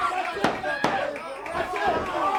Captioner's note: crowd cheering